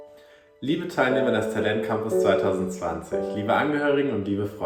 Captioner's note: speaks foreign language